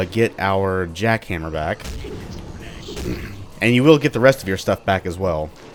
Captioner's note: clears throat